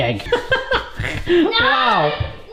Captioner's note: laughing